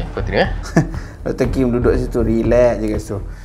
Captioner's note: laughing